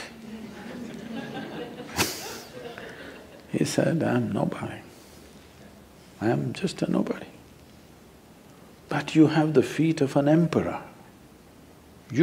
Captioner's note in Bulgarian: смехове в публиката